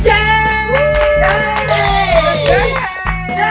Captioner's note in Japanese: 歓声